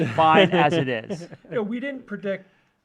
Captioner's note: laughs